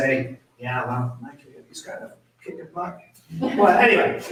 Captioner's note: speaks faintly